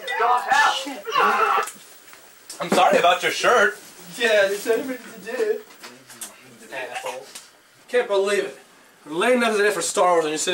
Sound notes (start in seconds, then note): 5.4 mocking